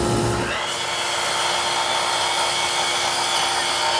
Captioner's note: saw whirring